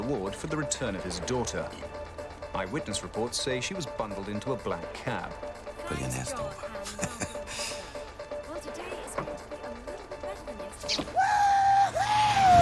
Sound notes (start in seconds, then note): 6.6 chuckles